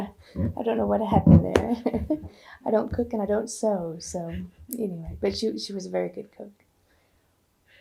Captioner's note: laughs